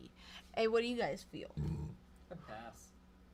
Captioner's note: burps